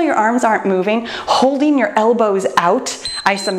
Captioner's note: timer beeps